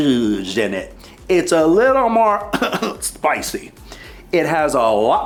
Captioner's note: coughs